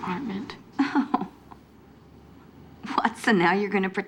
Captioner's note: laughs